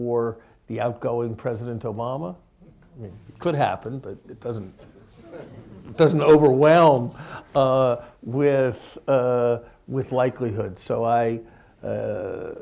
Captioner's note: laughter